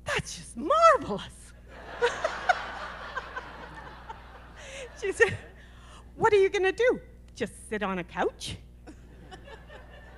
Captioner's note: laughter